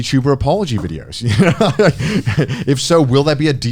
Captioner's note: Connor laughing